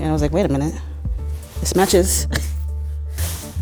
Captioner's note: laughs